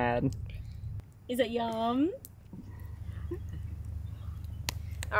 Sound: chuckles

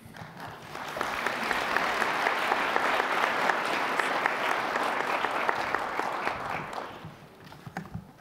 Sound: applause

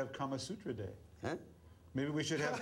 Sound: laughter

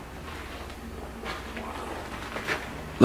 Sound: whispering

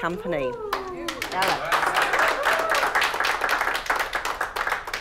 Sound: clapping and cheering

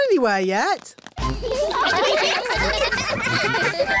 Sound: laughter

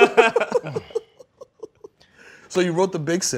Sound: laughter

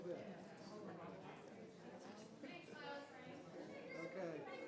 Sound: people chattering

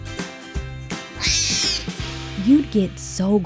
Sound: Dash crying

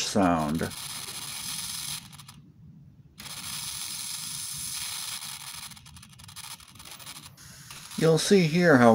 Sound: torch sounds

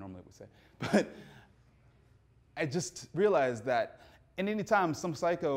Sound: laughs

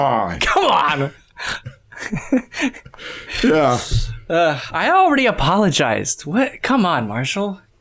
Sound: chuckles

